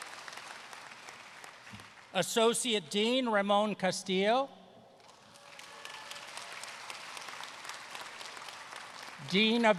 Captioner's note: applause